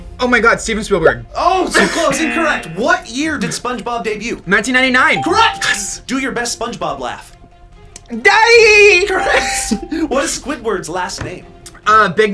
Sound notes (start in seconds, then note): 2.2 buzzer blares; 9.2 electronic bell chimes